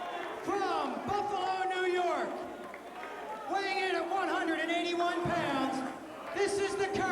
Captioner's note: crowd cheering